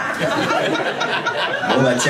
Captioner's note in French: rires public